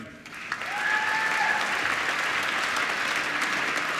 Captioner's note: applause